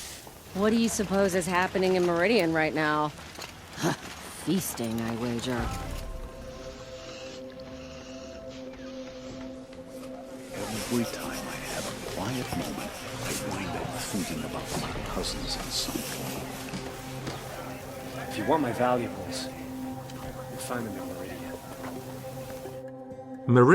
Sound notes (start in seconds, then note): 10.7 NPCs eating